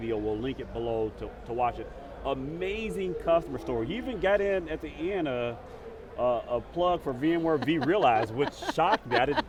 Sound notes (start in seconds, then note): 7.3 laughing